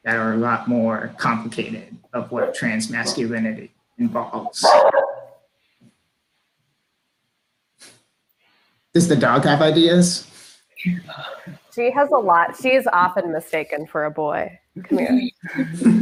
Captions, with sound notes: that are a lot more complicated of what trans masculinity involves. (dog barks) Does the dog have ideas? - She has a lot, she is often mistaken for a boy, come here.